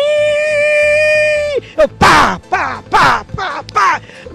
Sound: slap...slap

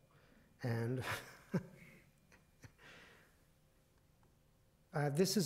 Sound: chuckles

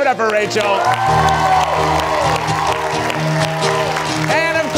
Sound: upbeat music; audience cheering

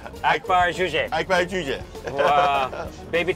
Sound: laughs

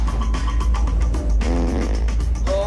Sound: fart

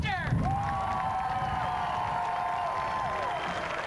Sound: cheering, clapping

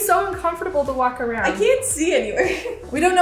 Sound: laughs

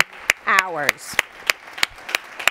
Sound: applause

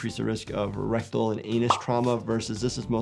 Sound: graphic pops

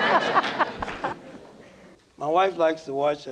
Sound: laughter

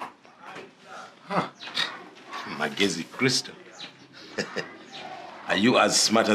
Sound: chuckles

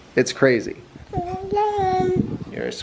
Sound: baby blabbering

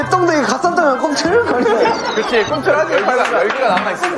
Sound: laugh out loud

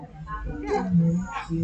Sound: faint echo

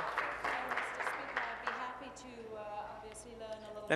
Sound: applause

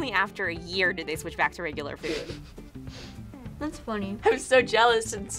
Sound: chuckles

